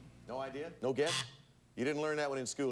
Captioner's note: buzzer sounds